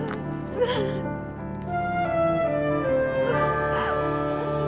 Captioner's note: llanto